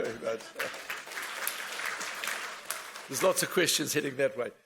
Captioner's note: audience applauds